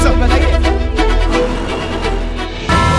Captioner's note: Vehicles on road